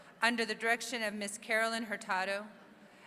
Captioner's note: none